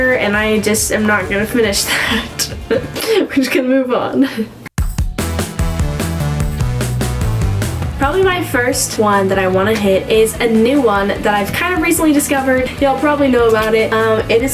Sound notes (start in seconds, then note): 2.6 laughing; 4.9 upbeat music